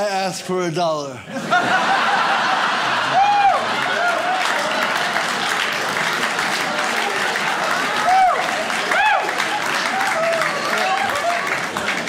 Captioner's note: audience laughs